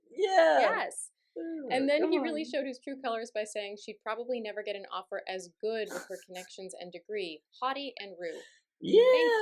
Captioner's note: laughter